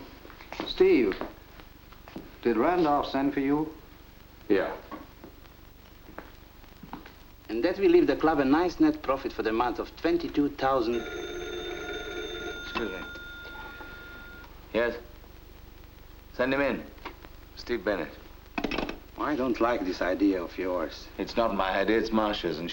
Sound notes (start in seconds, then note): 10.6 phone rings